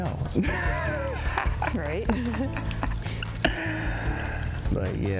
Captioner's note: both laugh